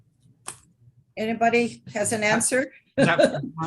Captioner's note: laughs